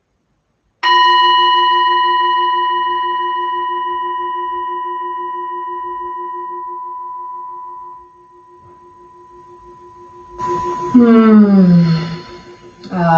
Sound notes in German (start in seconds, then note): 0.8 Klangschale erklingt